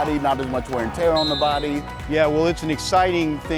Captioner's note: whistling